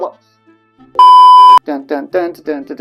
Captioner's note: loud beeping